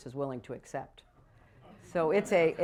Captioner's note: laughter